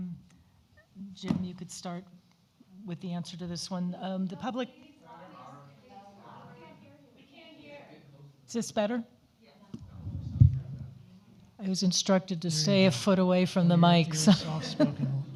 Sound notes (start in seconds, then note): 6.1 overlapping chatter; 15.1 overlapping chatter